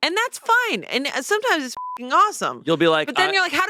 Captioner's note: beep